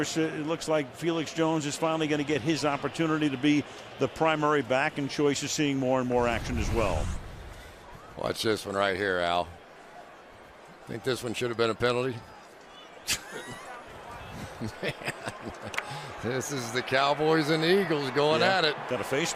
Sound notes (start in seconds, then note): 14.3 laughter